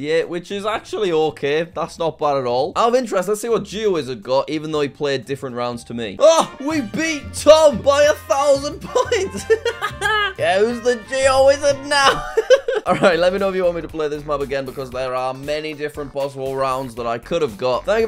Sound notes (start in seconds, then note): 6.2 celebratory music; 8.7 laughs; 12.2 laughs